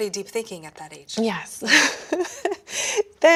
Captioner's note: laughing